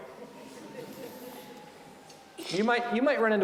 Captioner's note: audience laughing